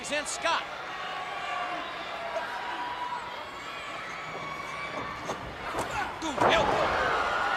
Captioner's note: crowd cheering